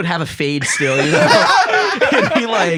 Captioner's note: laugh